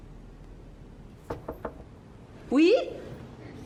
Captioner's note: knocking